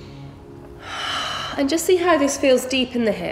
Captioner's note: heavy breathing